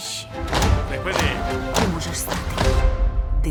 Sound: all stomping

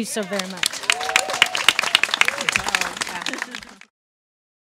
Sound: audience claps and cheers

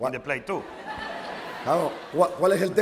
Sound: laughter; speaking spanish

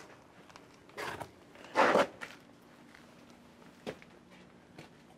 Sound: feet scraping

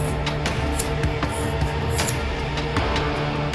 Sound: scissor sounds

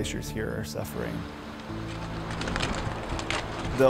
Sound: water rushing

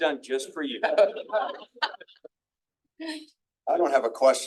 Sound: attendees laughing

